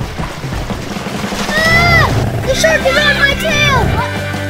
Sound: grrr, grrr!

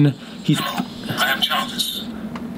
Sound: Robotic voice

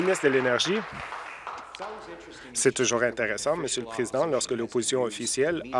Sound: applause

